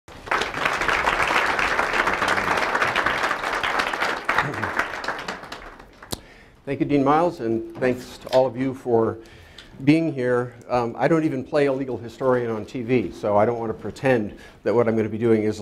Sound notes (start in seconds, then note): 0.0 applause